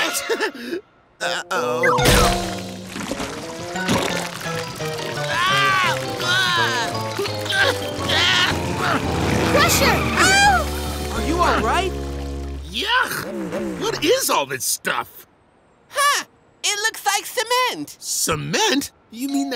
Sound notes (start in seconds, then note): 0.1 nervous chuckle; 5.2 exclaims disgusted